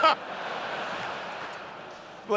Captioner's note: laughter